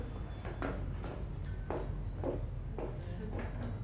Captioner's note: footsteps depart